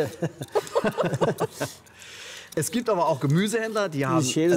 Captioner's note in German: Lachen